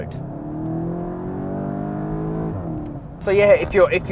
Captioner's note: car engine accelerating